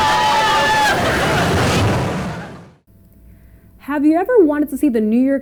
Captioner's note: people screaming